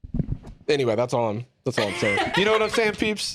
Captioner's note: laughs